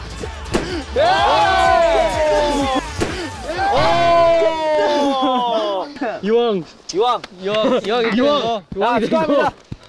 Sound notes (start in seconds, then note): 3.0 pop